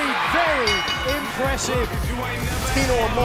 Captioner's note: bell ringing